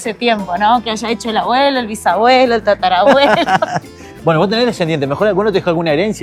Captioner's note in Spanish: risas